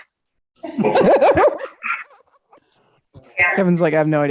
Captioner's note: woman laughing